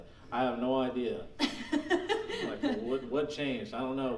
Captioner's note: laughing